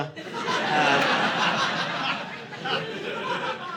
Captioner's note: audience laughing